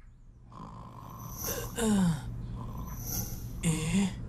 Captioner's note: MechaBot snoring; Amato groans